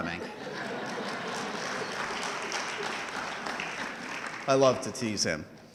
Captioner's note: audience laughing and clapping